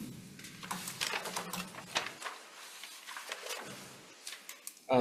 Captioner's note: papers rustling